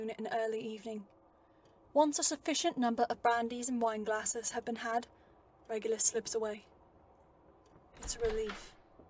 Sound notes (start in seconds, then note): 7.9 door shutting